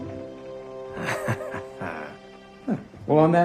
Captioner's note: laughs